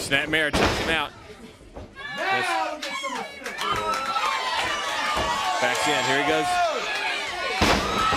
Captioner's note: crowd cheering